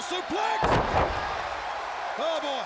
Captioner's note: audience cheering; body thudding